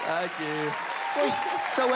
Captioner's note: clapping and cheerin